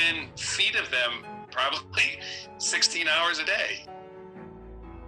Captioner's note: chuckle